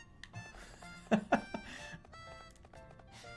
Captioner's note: laughing